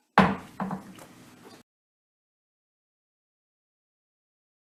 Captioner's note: gravel bangs